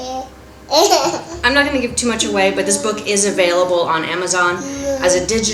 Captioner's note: baby laughs